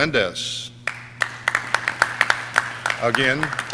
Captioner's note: audience clapping